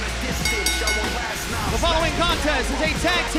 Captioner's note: bell ringing